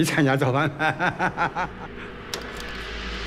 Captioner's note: risas